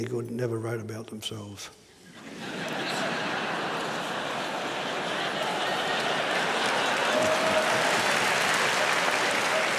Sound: laughter; applause

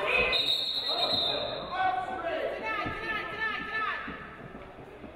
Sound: referee blows whistle

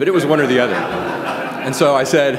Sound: laughter

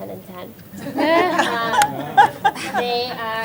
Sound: laughter

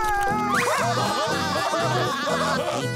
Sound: laughing

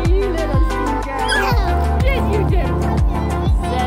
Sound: laughing

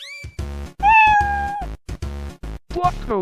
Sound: scratch Meow Sound Effect

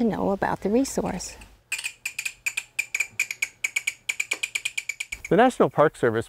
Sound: chirping bat call

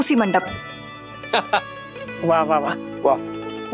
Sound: laughs

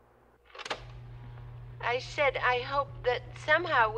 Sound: tape recorder clicks

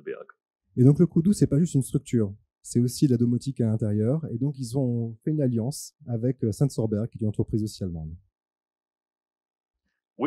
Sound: translating into french

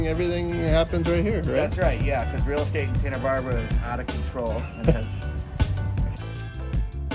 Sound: laughing

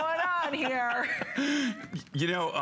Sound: laughter

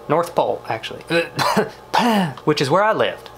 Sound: coughs

